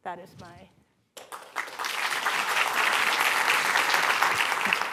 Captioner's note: applause